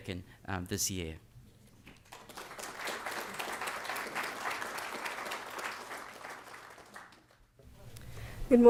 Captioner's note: applause